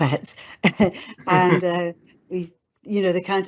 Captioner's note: both laughing